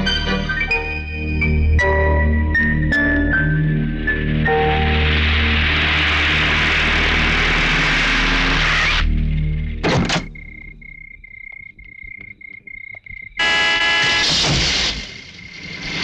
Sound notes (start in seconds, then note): 9.8 brakes squeal; 13.3 horn blares